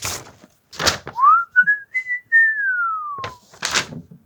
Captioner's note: whistling